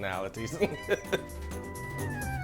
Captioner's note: laughter